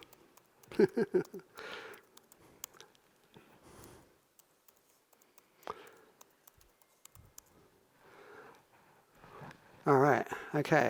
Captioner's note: laughs